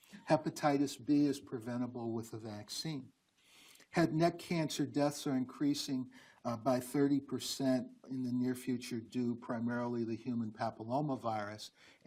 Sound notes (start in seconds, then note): none